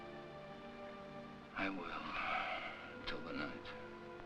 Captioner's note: sighs